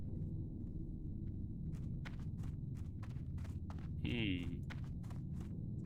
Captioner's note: hums